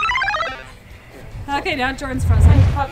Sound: squealing

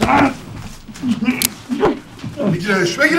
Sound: pocket knife opening

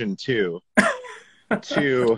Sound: laughs

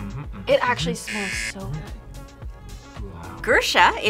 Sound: buzzer

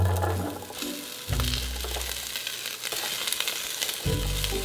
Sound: sizzling

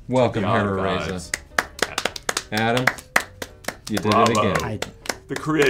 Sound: applause

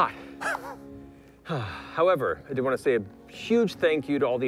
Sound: sighs

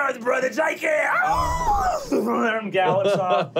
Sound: neighing

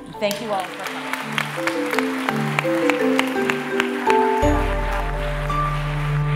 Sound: applause

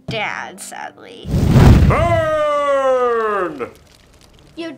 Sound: flames raging

